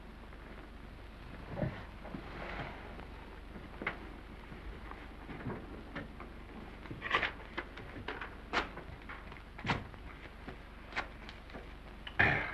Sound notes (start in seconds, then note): 8.2 paper tears